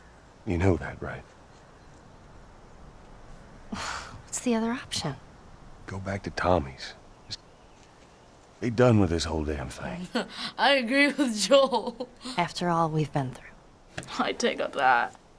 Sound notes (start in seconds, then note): 11.1 chuckling